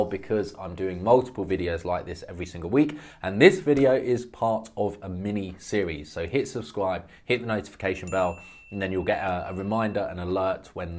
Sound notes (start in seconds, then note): 8.0 bell ringing